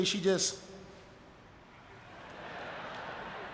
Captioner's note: audience laughing